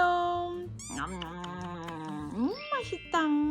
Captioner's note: om nom nom